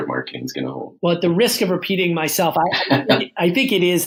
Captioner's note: laughs